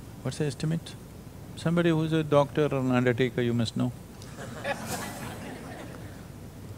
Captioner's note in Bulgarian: Смях